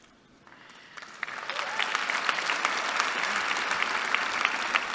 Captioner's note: applause